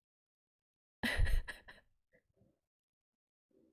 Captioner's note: laughs